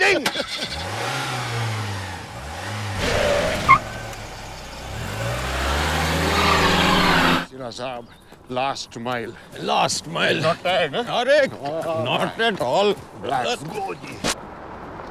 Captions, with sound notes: [car starts] [car driving away] Mr Sira last mile last mile not bad arre not at all just go with it